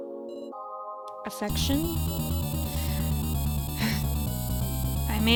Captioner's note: sigh